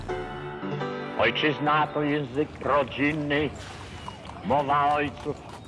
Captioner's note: speaking in Polish